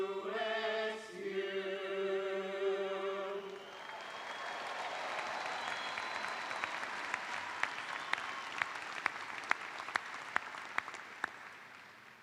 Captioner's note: cheers and applause